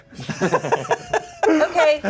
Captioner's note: everyone laughs